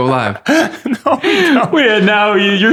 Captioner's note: laughter